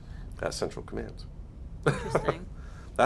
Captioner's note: laughs